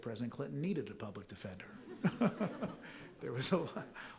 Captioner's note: all chuckling